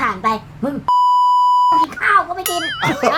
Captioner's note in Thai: เสียงเอฟเฟกต์; เสียงหัวเราะ